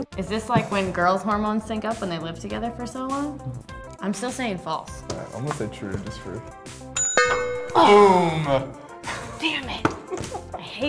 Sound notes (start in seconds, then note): 6.9 bell dongs; 6.9 bell rings; 7.8 woman gasps